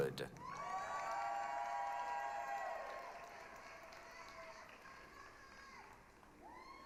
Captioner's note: applause, cheering